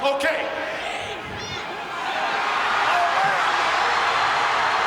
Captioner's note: audience cheering